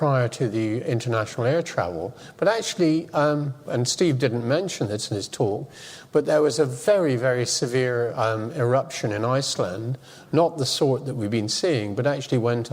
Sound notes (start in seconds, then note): none